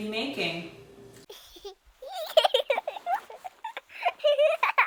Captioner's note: child giggling